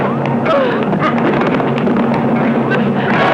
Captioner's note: whacking; crying out; dramatic music; electronic beeping